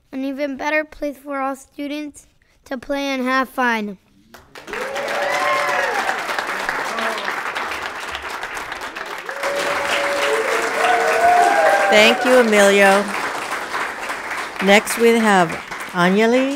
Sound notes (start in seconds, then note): 4.7 audience applauds; 4.7 people cheer